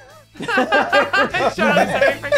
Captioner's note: group laughing